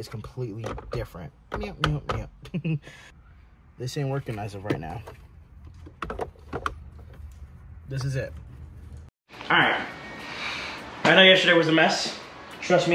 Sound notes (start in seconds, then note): 2.4 laughs